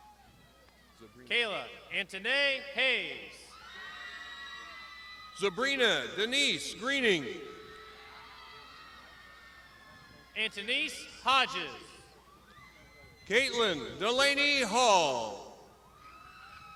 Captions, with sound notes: - Kayla Antony Hayes. (crowd shouting) - Sabrina Denise Greening. (crowd shouting) - Anthonys Hodges. - Kaitlin Delaney Hall.